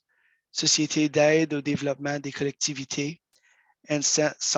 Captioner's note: speaks in French